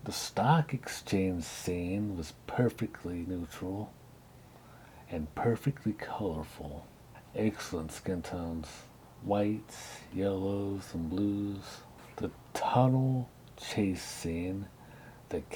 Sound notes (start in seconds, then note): none